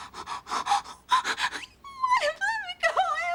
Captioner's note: crying